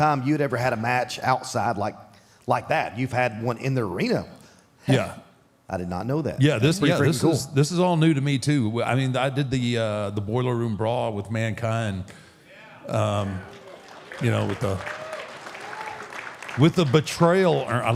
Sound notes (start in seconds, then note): 12.9 audience applauding